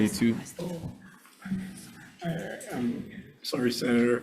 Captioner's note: indistinct conversation